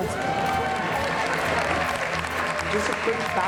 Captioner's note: cheers and applause